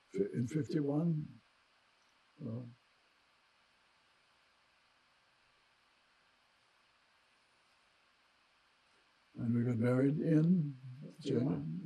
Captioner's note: pauses 8 seconds